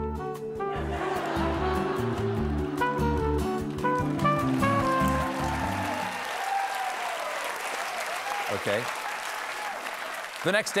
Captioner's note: cheers and applause